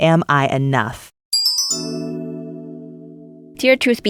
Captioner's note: bells chime